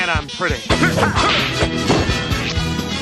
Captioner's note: grunting